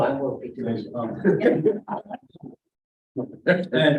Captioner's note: laughter